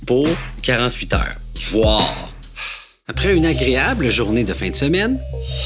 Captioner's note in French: soupir